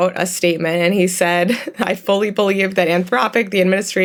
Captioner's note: chuckles